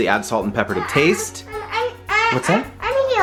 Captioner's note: child mumbling